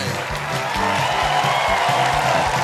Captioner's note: cheers and applause